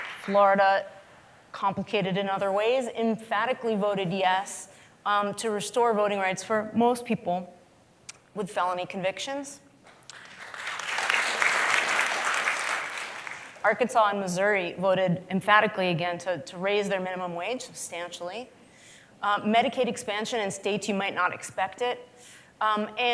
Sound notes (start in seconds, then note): 9.9 applause